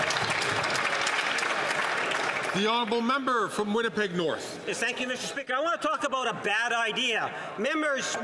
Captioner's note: some Applause